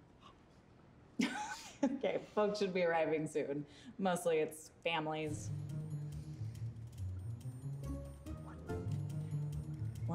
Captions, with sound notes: - (laughing) Okay, folks should be arriving soon. Mostly it's families. (concerned music) - What?